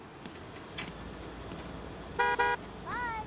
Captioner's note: horn honks